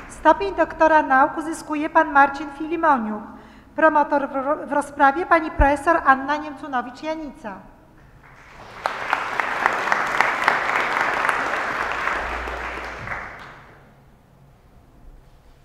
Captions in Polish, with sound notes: Stopień doktora nauk uzyskuje Pan Marcin Filimoniuk. Promotor w rozprawie Pani Profesor Anna Niemcunowicz-Janica. [oklaski]